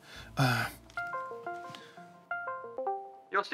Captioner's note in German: Skype-Klingeln